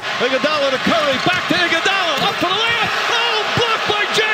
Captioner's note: basketball commentator yells excitedly